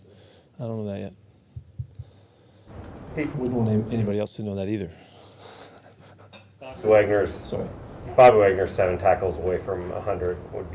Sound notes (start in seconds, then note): 5.3 chuckles